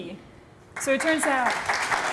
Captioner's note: applause